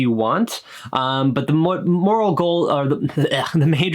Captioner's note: groans